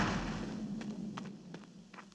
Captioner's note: footsteps